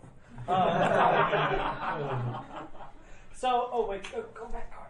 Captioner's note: laughing